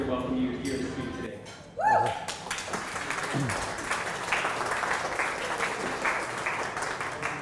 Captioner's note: cheers, applause